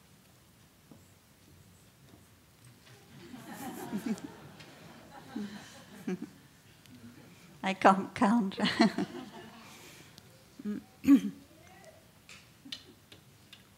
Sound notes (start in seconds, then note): 4.7 laughter